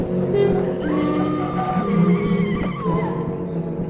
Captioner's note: scream